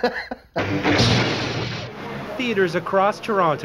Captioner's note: laughs; loud electric pulse